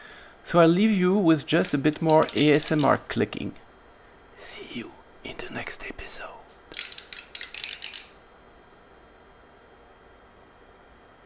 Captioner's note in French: chuchotement